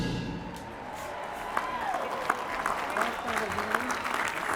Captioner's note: applause and cheering